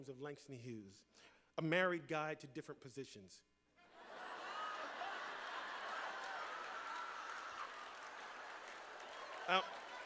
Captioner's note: laughter